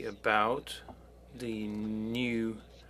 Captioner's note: speaking French